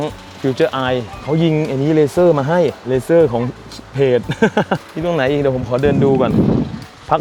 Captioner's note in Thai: เสียงหัวเราะ